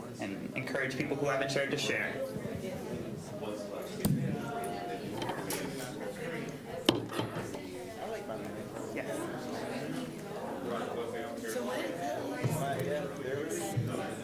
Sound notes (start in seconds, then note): 3.4 general chatter